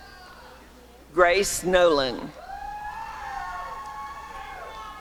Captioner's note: applause and cheering